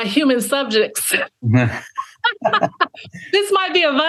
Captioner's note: laughing